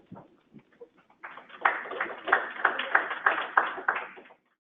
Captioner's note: applause